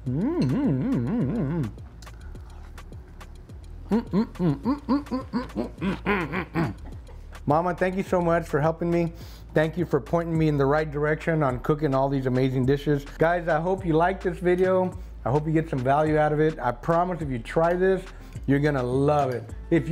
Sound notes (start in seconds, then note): 3.8 grunting happily